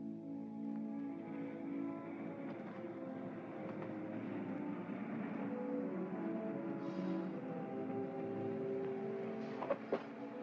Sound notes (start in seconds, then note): 0.0 soft music; 0.6 car engine softly rumbling; 7.2 soft music